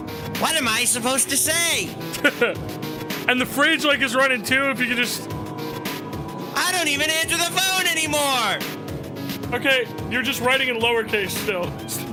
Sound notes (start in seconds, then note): 2.1 laughs